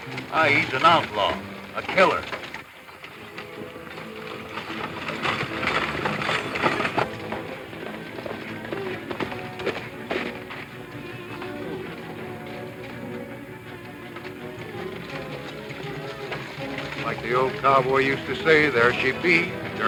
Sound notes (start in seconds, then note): 4.0 stagecoach wheels rumbling; 9.1 horse hooves pounding; 11.5 dramatic music; 14.4 stagecoach wheels rumbling